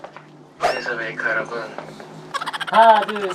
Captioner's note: longing voice